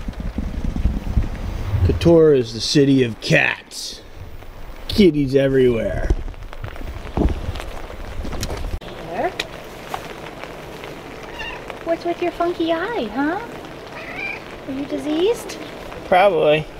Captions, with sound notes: Kotor is the city of cats. kitties everywhere *Meow* What's with your funky eye huh? Are you diseased? probably